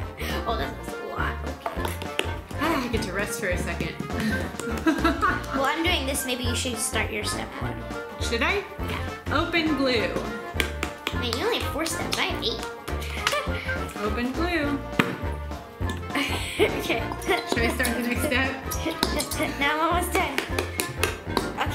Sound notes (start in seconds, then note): 4.2 laughs; 10.0 patting; 13.0 giggles; 16.0 giggles